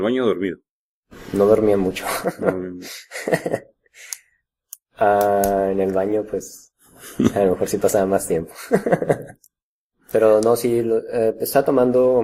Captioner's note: laughs